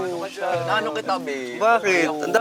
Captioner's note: bong